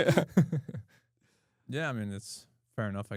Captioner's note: laughs